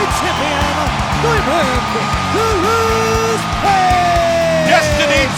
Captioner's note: audience cheers